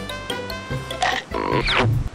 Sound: chomps

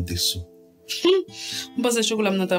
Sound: giggles

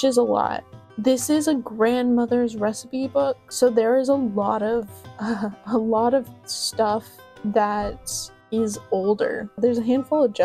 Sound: soft laugh

